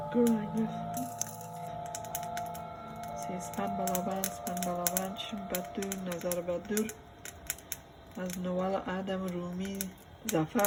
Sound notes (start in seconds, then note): 3.3 fire crackling; 3.3 speaking foreign language